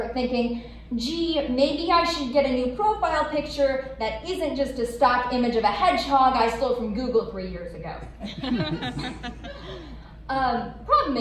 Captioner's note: laughter